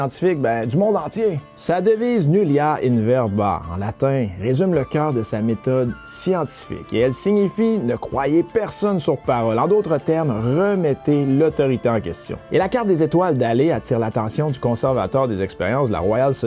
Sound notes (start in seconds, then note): 3.1 Latin